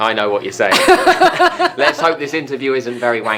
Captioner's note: laughing